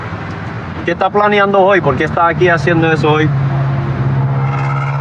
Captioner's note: spepeakaking g spspanis